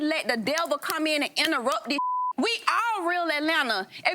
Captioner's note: beep